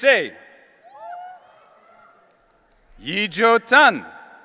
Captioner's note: audience cheering